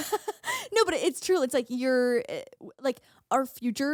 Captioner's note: laughing